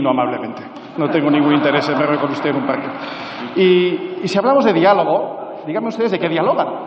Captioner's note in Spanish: Risas